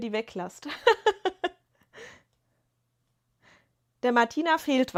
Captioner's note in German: gelächter